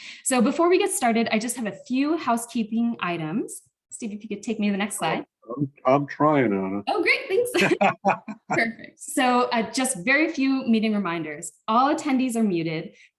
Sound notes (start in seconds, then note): 7.5 laughs